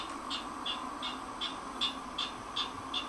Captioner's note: california Ridgway's Rail call